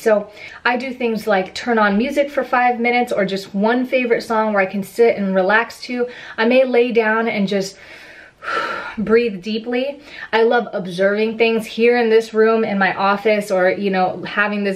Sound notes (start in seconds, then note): 7.8 inhales